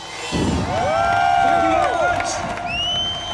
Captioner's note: cheering